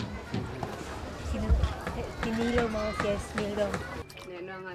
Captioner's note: speaking Austronesian language